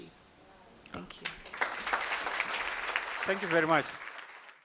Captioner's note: applause